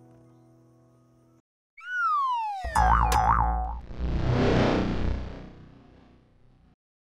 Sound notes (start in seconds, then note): 1.8 digital whistle; 3.8 electronic whir